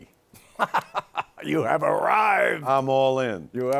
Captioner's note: laughs